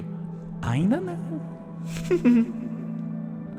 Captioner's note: laughs